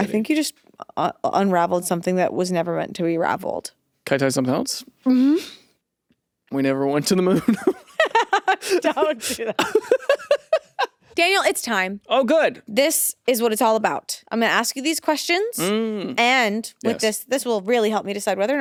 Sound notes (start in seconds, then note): 7.3 laughs